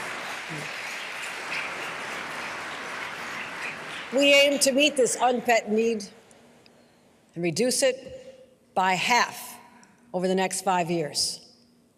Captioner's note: applause